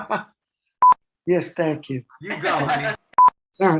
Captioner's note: laughs